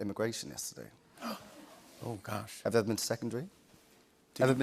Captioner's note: gasps